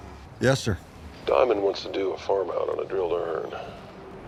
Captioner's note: on phone